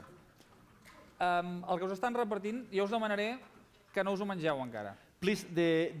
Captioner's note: non-english speech